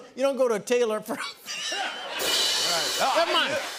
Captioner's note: laughter